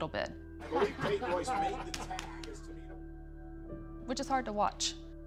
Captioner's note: Vince laughs